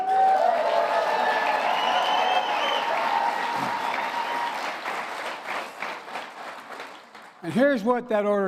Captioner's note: applause